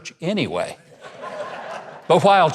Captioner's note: laughing